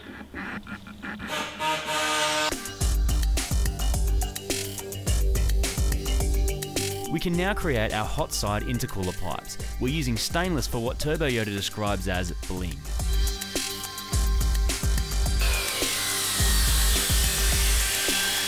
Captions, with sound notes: [grinding noise] "We can now create our hot side intercooler pipes." "We're using stainless for, what Turbo Yoda describes as, 'bling.'"